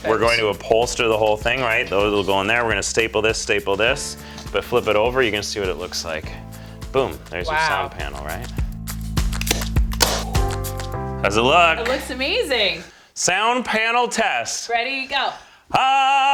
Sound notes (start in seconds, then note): 9.4 staplegun firing